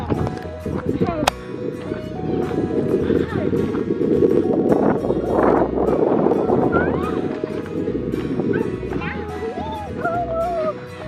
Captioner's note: wind blows